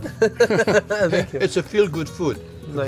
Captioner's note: laughs